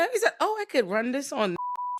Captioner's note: beep